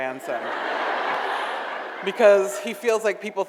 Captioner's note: audience laughs